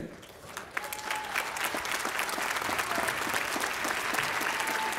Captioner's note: audience applauding